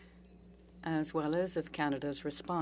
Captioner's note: speaking French